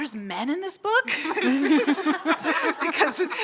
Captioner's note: audience laughing